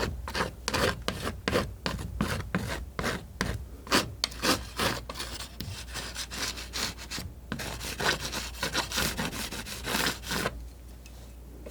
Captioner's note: scratching